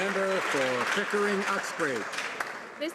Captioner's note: some Applause